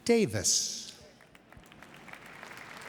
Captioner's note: applause